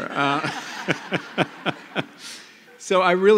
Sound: laughter

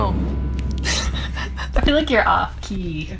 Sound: laughing

